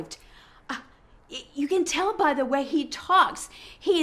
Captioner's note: scoffs